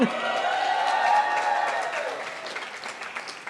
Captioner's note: cheering